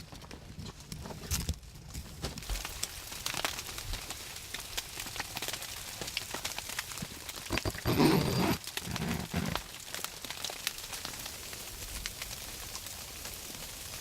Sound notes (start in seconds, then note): 4.2 sleet falling; 7.5 zipper buzzing